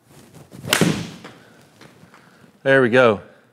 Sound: golf club thwacks ball

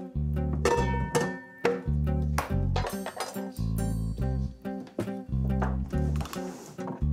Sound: chill samba music; pans clattering

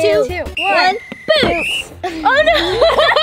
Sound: whistle blows

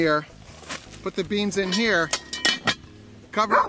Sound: iron put clanks; package of beans rattles; dog barks

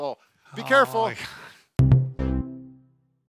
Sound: scoffs

